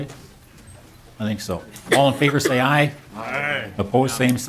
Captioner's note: chorus of ayes